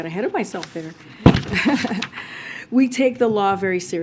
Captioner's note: laughs